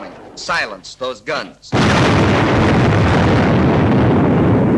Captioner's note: bombs exploding